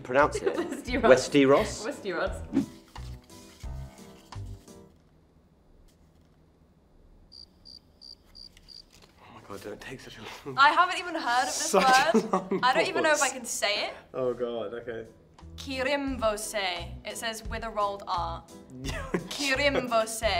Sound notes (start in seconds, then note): 4.7 music stops abruptly; 7.2 crickets chirping; 11.7 chuckles